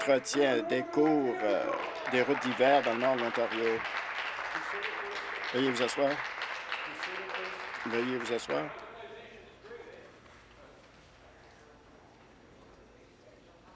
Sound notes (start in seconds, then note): 4.5 applause